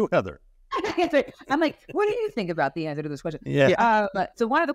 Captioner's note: laughs